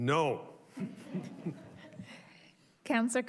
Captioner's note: crowd chuckles